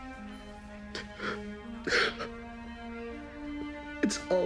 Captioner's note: cries